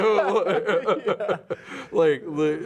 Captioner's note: laughing